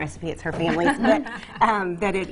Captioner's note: laughs